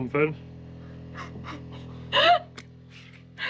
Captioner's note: laughter